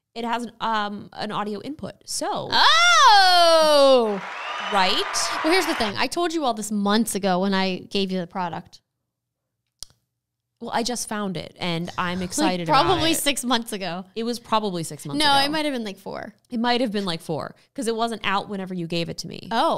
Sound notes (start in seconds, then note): 3.3 crowd cheering